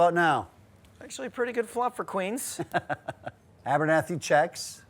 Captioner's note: laughs